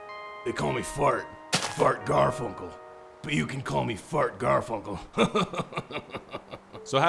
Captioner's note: chuckles